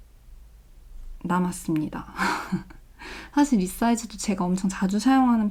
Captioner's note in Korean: 헉 소리